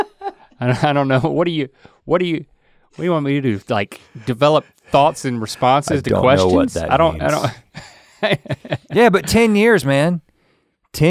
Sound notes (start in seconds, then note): 0.0 Rhett laughs; 8.5 laughs